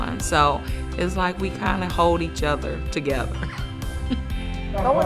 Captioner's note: chuckles